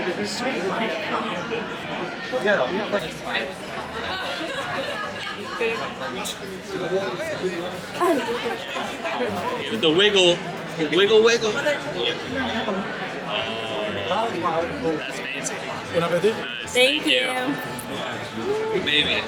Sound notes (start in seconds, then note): 0.3 people chattering; 4.0 people laughing; 9.0 people chattering